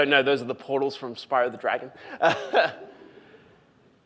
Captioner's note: laughs